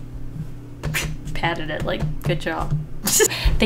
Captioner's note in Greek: Γέλια